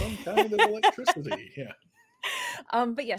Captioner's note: laughs